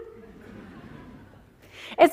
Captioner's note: laughter